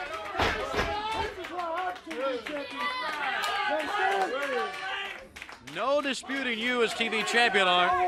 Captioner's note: crowd chatter